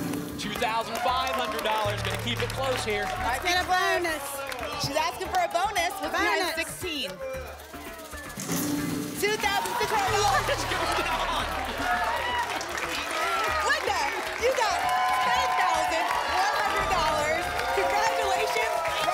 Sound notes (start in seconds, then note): 11.5 applause and cheering